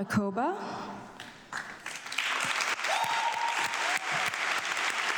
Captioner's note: audience clapping